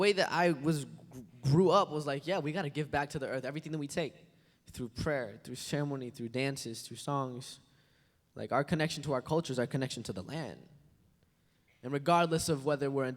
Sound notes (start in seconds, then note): none